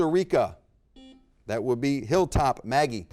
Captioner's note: buzzer beep